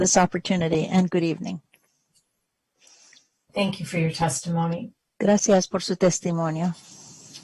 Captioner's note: speaking spanish